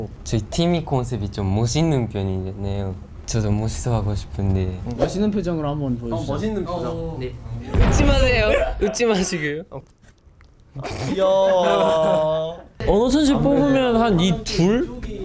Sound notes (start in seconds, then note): 10.7 laughs